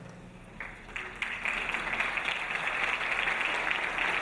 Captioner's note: audience applauding